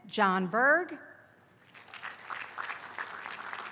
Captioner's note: applause